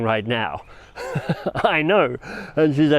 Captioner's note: chuckles